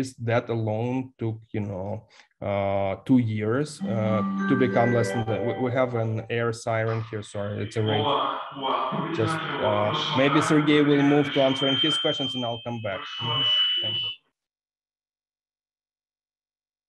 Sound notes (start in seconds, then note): 3.8 siren blares; 8.1 announcer speaks in foreign language